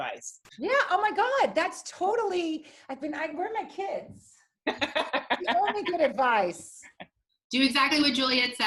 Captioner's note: laughter